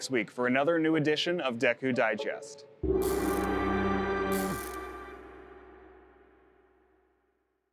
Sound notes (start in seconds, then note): 4.2 electricity buzzing; 4.3 energetic music